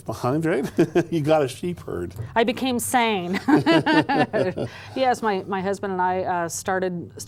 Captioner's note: laughter